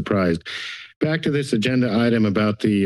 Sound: inhales

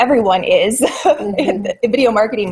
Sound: laughs

